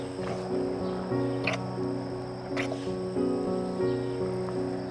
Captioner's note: kissing